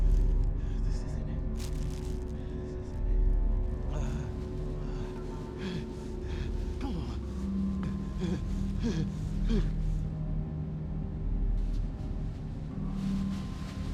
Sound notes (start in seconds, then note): 3.5 gasping